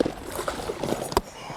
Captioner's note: splash